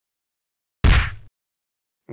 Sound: kick sound effect

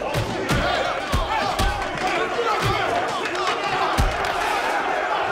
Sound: shouting

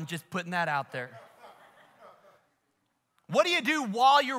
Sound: congregation laughs

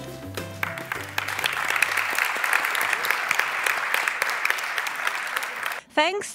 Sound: applause

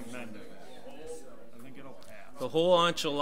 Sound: overlapping chattering

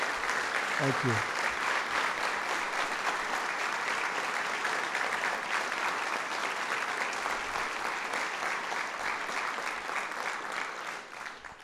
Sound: applause

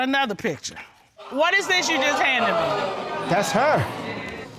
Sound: audience exclaiming

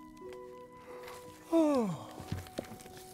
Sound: yawn

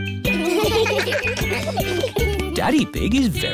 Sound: steel band; laughter

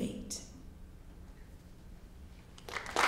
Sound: applause

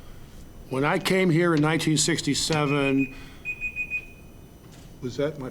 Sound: timer beeping

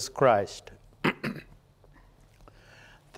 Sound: clearing throat

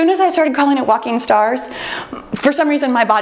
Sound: timer beeps

